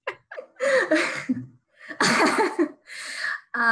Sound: laughs

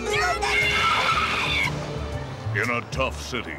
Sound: tires screech

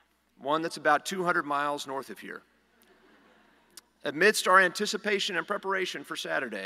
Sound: laughter

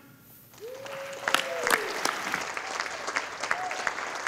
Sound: audience applauding

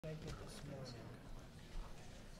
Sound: indistinct conversation

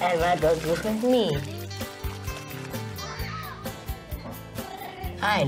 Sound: screaming and Laughter

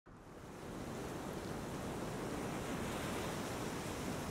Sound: waves crashing

